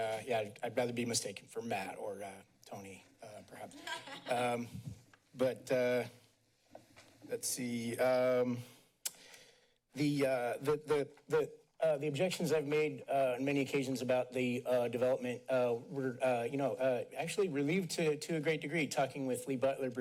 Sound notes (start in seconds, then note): 3.7 laughs